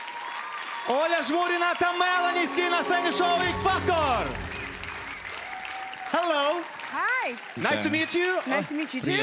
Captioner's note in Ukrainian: оплески